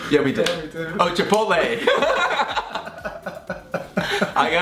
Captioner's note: laughing